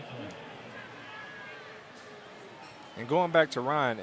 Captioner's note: pa announcement